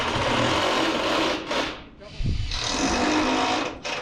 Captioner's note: drill running